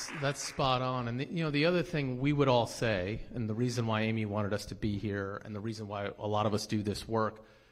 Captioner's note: applause